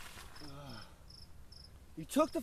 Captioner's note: groans